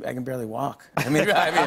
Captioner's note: laughter